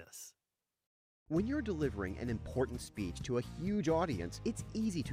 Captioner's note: voiceover